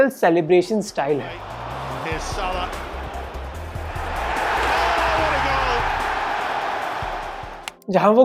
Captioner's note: crowd cheers